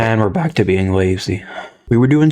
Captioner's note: exhales Oxygen